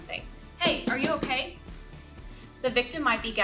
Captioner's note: loud tapping